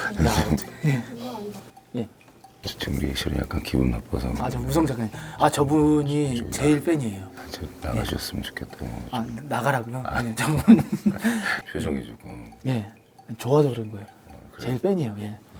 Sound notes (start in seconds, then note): 0.0 haha; 7.6 haha; 12.7 haha